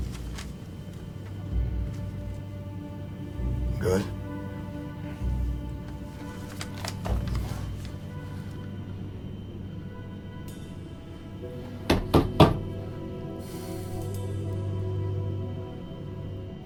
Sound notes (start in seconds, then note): 11.8 door knocking